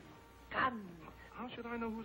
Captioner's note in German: aufgeregt